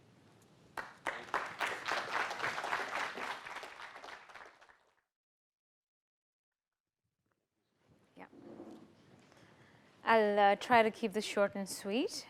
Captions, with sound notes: (clapping) - I'll try to keep this short and sweet.